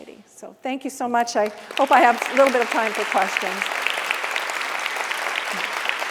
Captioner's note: applause